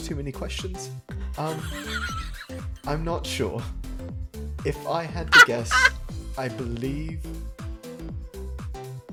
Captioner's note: laughs